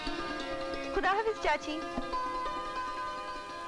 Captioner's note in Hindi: none